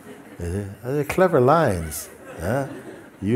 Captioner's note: laughter